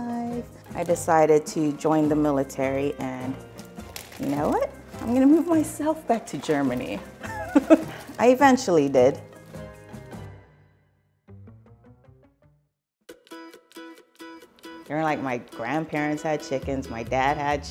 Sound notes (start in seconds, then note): 7.2 laughs; 9.5 quirky music; 13.1 upbeat music